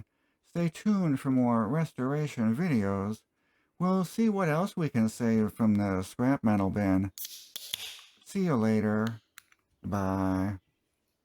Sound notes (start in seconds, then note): 7.2 beer opening sound